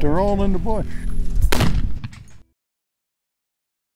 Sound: gunshot

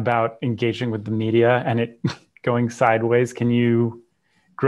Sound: chuckles

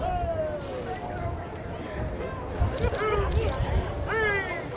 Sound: people cheering

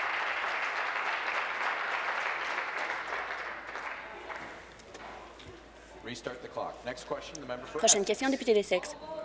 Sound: applause

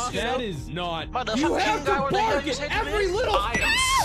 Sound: arguing

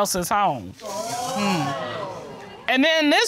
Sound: audience exclaiming

